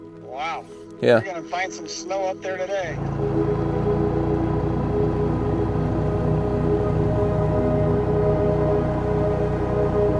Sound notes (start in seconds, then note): 0.0 soft music; 2.9 boat rumbling